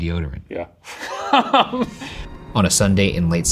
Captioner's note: laughing